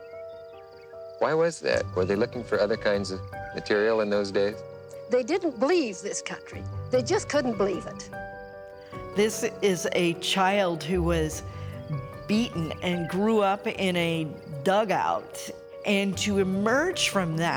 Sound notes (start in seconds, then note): 0.7 birds chirping; 8.3 bright music